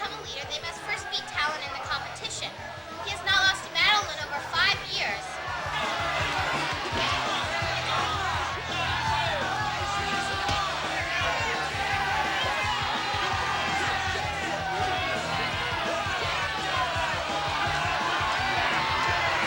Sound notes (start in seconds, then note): 5.5 crowd shouting; 5.5 fists pounding; 12.1 crowd shouting; 16.1 crowd cheering